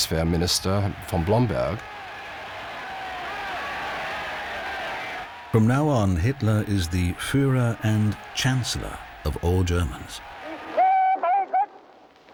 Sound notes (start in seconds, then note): 4.2 crowd shouting "heil!"